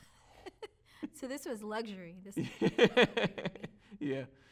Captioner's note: laughs